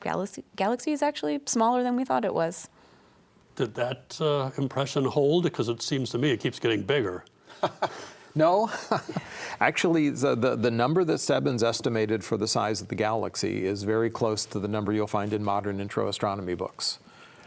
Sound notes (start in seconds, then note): 8.5 laughs